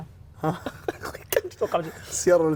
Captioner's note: laughing